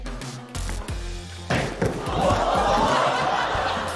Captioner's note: thud!